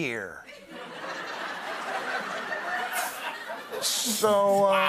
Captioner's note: laughter